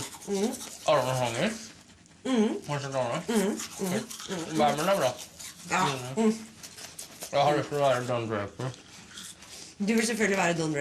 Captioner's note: blblblbblb